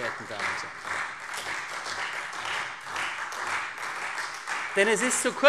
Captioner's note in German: Beifall CDU und Freie Demokraten